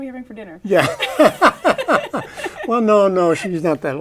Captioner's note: laughter